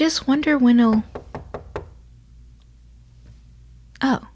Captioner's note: knocking